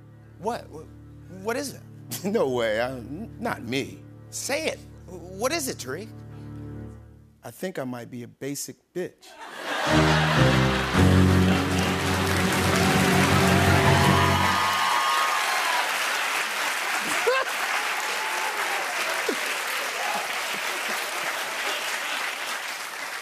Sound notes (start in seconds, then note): 6.2 dramatic music crescendos; 9.3 laughter; 9.7 dramatic music plays; 13.3 cheers and applause; 16.8 laughs; 18.6 applause continues